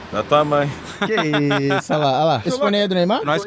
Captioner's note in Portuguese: Risos